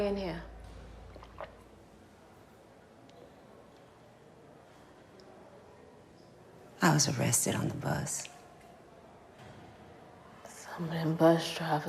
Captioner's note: swallows